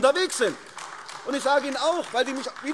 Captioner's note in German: Beifall AfD